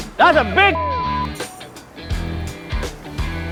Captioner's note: beep